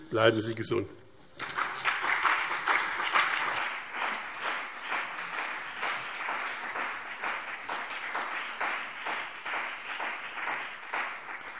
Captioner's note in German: Beifall BÜNDNIS 90/DIE GRÜNEN und CDU